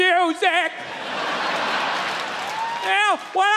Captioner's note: crowd laughs